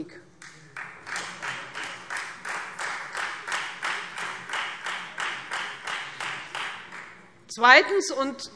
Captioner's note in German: Beifall Freie Demokraten